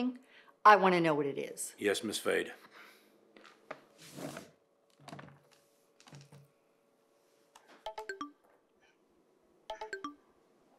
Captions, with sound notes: I want to know what it is. Yes, Miss Fade. [digital tone plays]